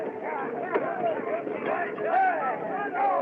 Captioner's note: chattering, Shouting